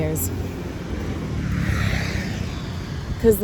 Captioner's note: vehicle passes